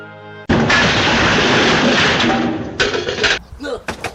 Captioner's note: crash